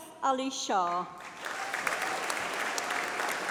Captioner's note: applause